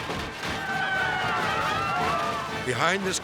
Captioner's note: crowd yelling